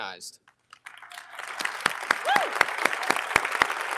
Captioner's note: audience applauding